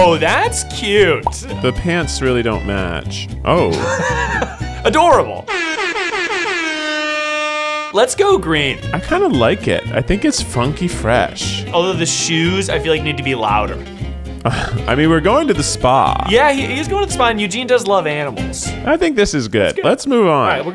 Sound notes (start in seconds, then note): 3.6 laughs; 5.5 buzzer